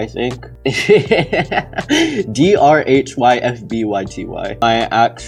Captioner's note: laughs